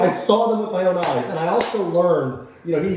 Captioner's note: clapping